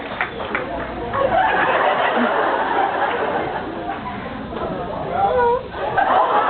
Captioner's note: awws, cheers, applauds; laughs; laughs